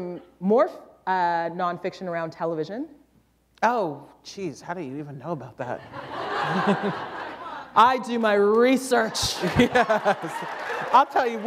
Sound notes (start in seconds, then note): 5.8 laughter; 9.0 laughter